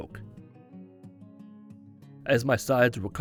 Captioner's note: silence